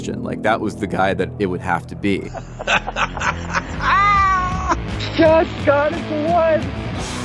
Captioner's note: laughs